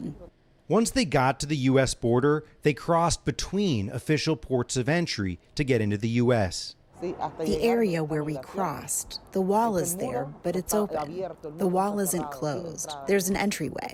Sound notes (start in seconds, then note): 6.7 through translator